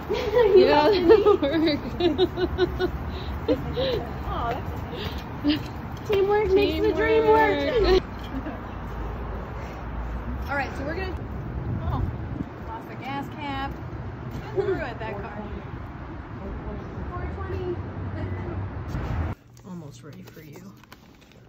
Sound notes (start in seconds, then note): 0.0 laughs; 18.2 laughs